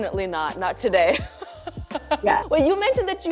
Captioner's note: laughs